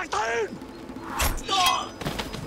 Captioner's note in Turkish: Ok saplanma sesi